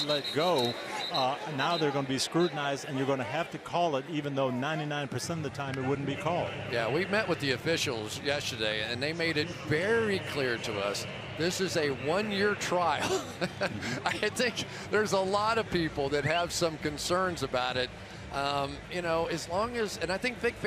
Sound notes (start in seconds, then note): 13.0 laughs